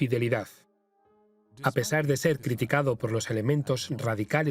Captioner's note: voiceover